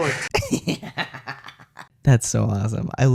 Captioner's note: cackling